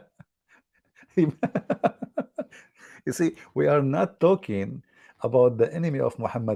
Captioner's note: Ketawa